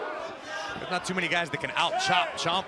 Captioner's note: crowd chatter